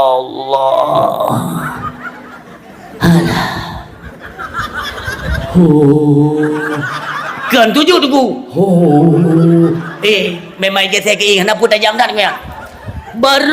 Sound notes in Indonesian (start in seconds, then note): 4.9 tertawa